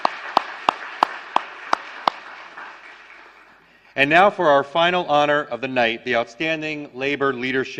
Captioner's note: applause